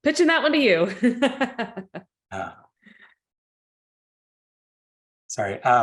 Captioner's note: laughs